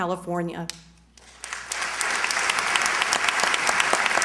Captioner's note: applause